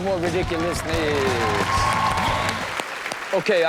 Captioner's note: audience cheers